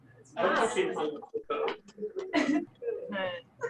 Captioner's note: background chatter